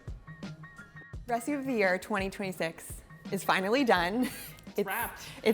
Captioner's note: chuckles